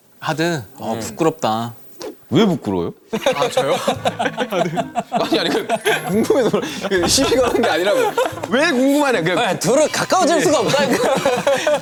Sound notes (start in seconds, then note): 3.1 haha